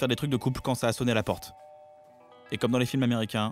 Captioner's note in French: bruit de sonnette